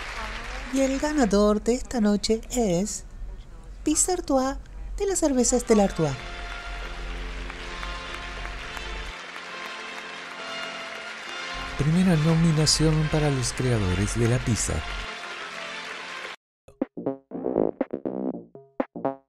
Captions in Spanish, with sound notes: Y el ganador de esta noche es ... "Pizza Artois" de la cerveza Stella Artois [Aplausos y ovación] Primera nominación para los creadores de la pizza